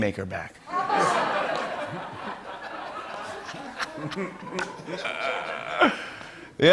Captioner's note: laughter